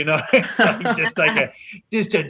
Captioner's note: laughter